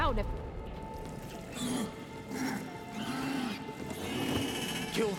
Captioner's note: roaring